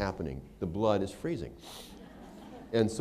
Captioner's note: laughter